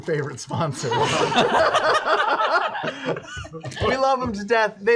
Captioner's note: laughter